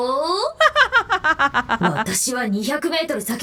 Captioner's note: laughs